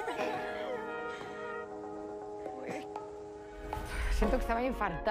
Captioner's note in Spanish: ríe